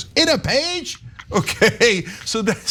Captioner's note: laugh